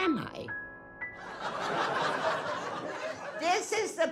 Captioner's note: laughing